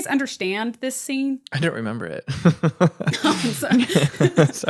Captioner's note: laughs